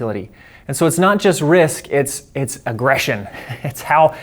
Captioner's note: laughs